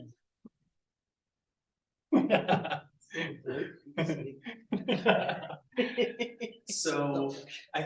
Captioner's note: laughs